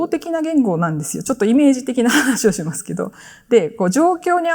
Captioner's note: chuckles